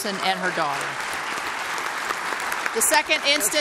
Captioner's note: applause